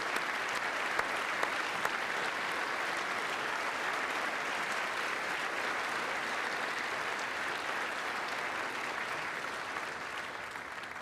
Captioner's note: applause